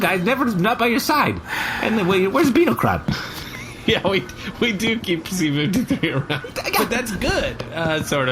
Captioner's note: laughing